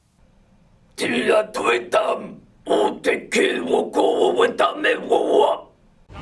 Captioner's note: alien sounds